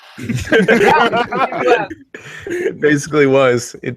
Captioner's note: everyone laughs